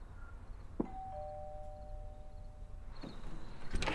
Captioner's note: doorbell rings